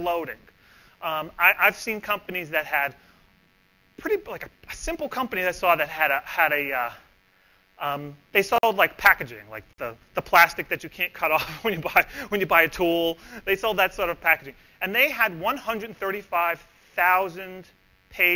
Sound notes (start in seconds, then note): 11.5 laughs